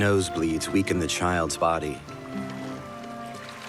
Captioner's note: water lapping